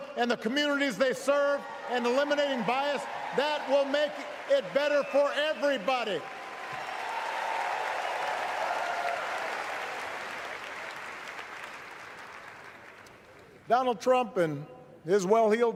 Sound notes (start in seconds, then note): 11.1 cheers; 13.2 applause